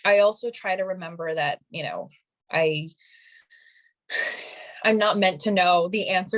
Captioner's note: sighing